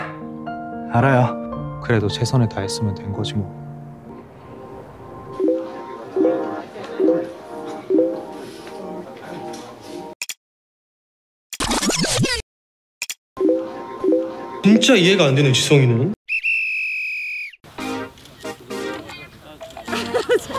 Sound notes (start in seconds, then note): 11.6 rewinding